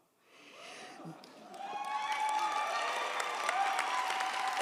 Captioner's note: audience cheers